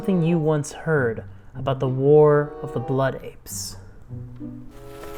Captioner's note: papers crinkle